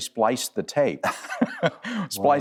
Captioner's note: both laugh